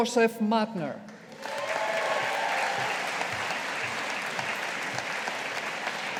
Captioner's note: audience applauding